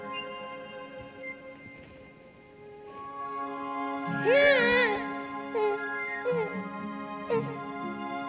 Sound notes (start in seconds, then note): 4.1 yells, whimpers